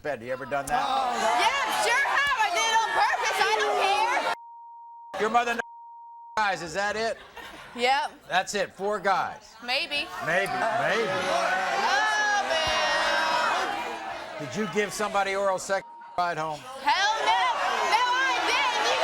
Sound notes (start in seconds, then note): 0.8 audience groans; 4.3 beeps; 5.5 beep; 10.1 audience groans; 15.8 beep